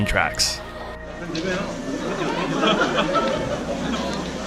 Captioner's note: laughing